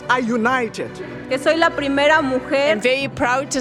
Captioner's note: parlant en Espagnol